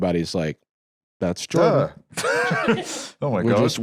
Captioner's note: laughs